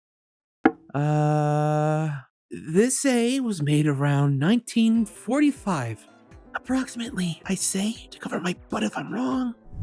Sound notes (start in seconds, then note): 6.6 whispering